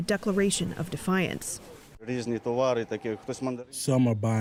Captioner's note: through translator